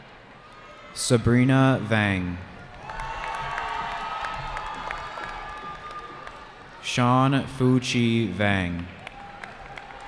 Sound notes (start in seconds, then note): 2.5 cheering